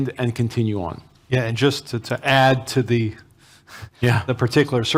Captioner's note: sighs